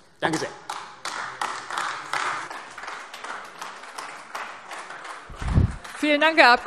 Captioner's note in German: Beifall AfD